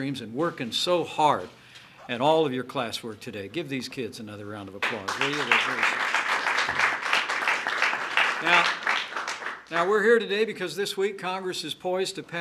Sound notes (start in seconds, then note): 4.8 applause